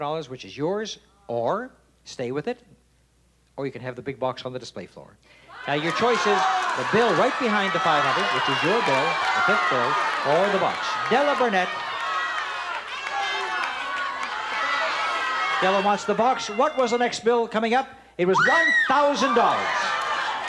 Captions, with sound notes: or stay with it, or you can have the big box on the display floor. Now, your choice is the bill right behind the $500, which is your bill, the fifth bill, or the box. Della Burnett. (audience shouting) -The box. -Della wants the box. What was the next bill coming up? It was $1,000. (screams)